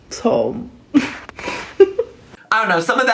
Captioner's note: chuckles